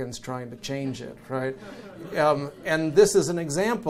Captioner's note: audience chuckles